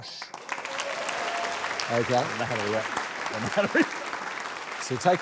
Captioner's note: cheering, applause; laughs